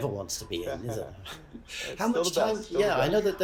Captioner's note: laughs